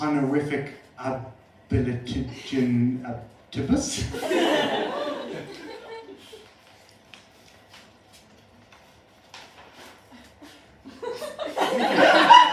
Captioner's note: laughter